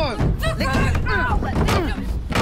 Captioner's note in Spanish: La carretilla suena